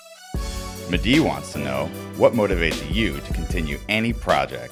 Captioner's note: voiceover